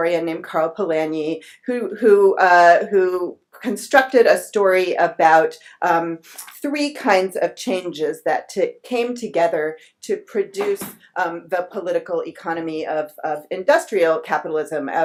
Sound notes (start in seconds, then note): none